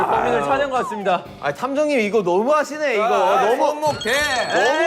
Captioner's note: frustrated